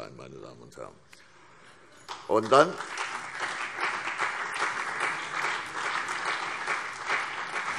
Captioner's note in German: Beifall CDU und BÜNDNIS 90/DIE GRÜNEN